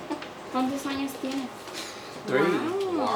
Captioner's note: speaks in foreign language